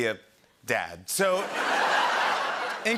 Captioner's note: laughter